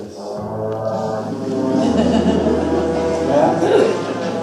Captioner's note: groaning sound; audience laughs